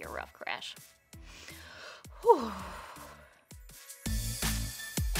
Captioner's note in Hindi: लंबी साँस; मस्ती भरा संगीत